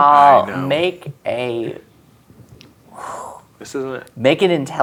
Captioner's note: exhales